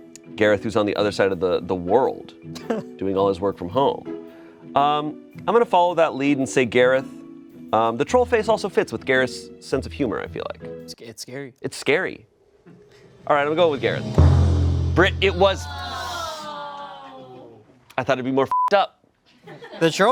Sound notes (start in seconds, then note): 16.6 audience awes; 18.5 beep